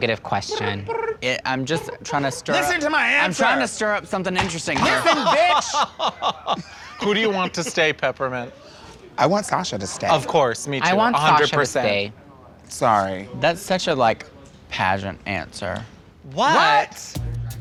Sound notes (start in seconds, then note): 1.9 mimics angry voice; 2.8 chair crashes; 4.5 mimics angry voice; 4.8 laughing